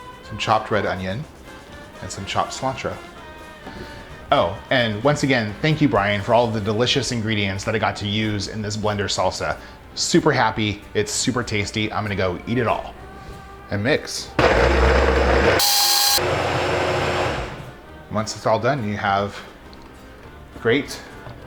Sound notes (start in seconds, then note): 14.4 blender whirring